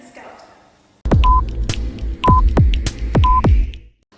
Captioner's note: counter ticking